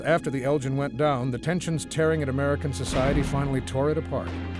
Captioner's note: guns firing